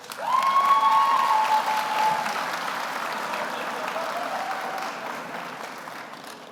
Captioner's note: audience applauds; audience cheers